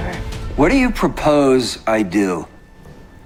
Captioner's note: shouting